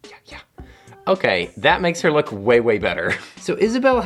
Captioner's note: chuckles